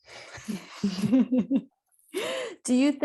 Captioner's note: both laughing